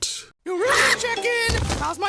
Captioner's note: screams